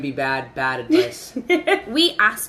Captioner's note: laughing